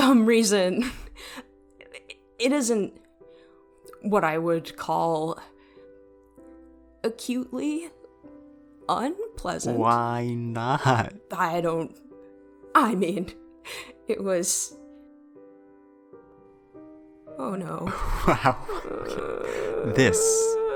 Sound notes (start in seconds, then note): 13.8 beat